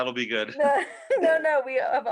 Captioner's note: laughing